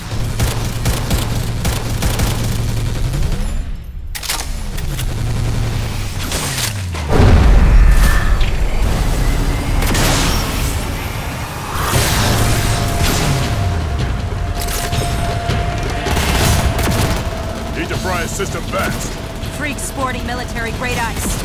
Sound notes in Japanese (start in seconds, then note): 0.1 発砲音; 7.2 の飛行音; 9.7 発砲音